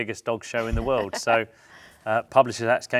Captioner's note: laughs